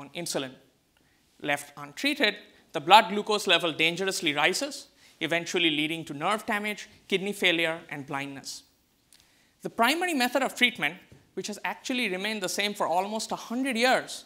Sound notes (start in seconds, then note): none